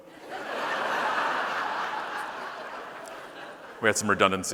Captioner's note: audience laughing